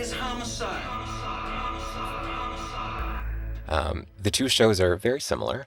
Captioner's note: soundbite of tv show, "homicide: life on the street"